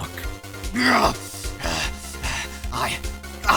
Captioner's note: growling